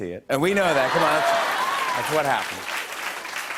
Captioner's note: laughter; applause